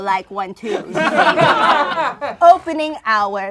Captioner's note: laughing